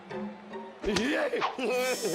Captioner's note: devious chuckle